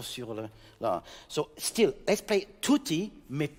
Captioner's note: speaking in French; speaking in French